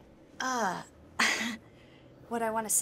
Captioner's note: chuckles